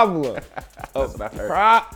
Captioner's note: laughs